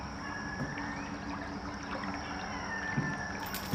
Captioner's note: bubbling water; clinking metal